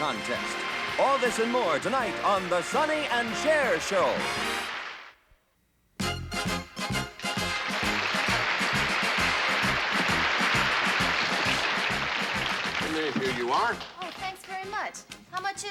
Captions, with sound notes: All this and more tonight on The Sonny and Cher Show. [ Jaunty music ] [ Applause ] And here you are. Oh, thanks very much. How much is it?